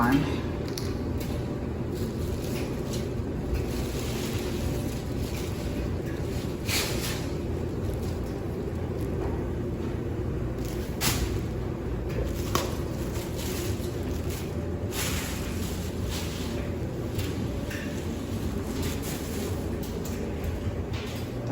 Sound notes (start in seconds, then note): 0.6 dryer continues running; 1.8 bags rustling